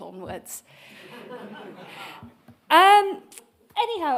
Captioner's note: attendees laughing